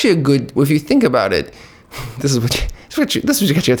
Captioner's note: laughs